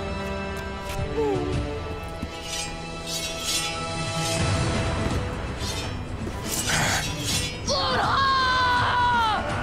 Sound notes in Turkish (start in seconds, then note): 0.0 Ok ve can çekişme sesleri; 2.3 Kılıç sesleri